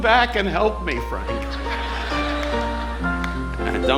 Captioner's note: audience laughing